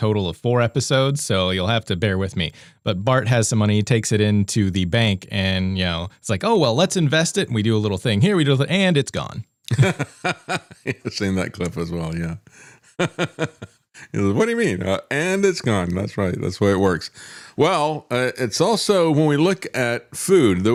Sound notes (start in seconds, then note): 9.7 laughing; 12.6 laughing